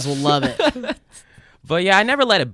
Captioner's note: laughing